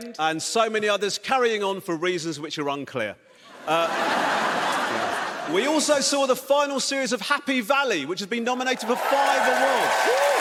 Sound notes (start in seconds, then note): 3.5 audience laughs